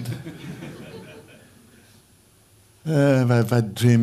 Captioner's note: laughter